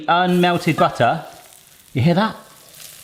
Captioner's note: sizzles